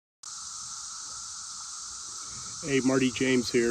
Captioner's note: cicadas